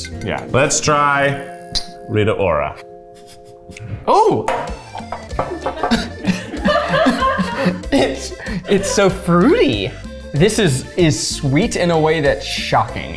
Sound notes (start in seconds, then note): 5.4 and crew member laughs